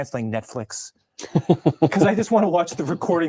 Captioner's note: laughs